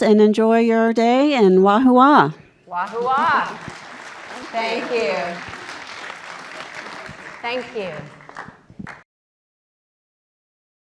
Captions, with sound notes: and enjoy your day, and wahoowa. - Wahoowa. (audience applauding) Thank you. Thank you.